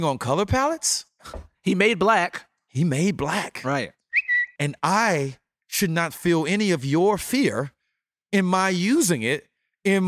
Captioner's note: tweet